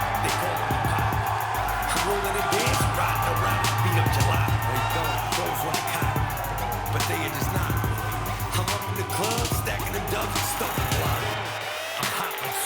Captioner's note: cheers & applause